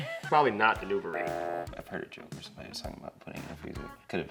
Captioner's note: laughs; buzzes